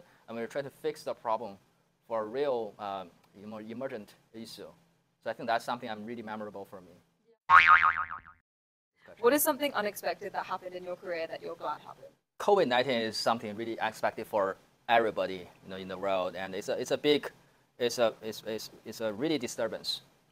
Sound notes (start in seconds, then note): 7.5 image boings